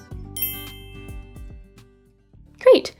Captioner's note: twinkle tone